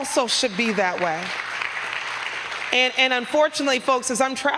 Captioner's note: applause